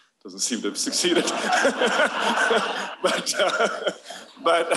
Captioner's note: laughter